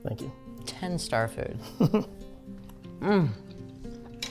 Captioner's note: chuckles